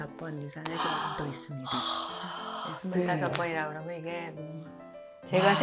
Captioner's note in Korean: 한숨